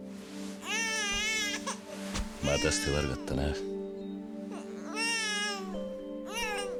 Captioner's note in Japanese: 泣き声